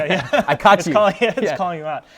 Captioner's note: laughing